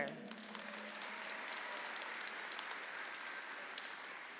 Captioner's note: audience applauds